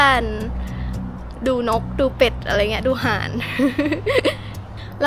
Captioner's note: haha